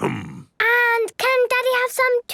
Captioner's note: coughs